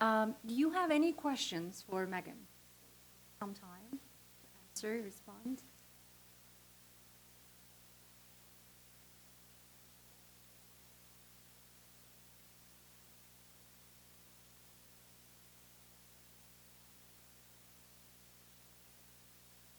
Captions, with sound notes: Do you have any questions for Megan? Sometime answer, and respond. (silence) (silence continues)